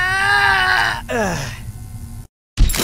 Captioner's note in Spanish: suspiro